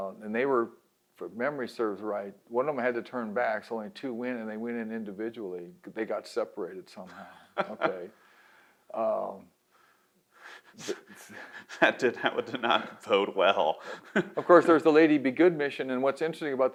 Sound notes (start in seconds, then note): 7.0 laughs; 10.5 laughs